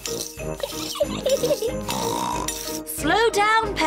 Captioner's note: giggles and snorts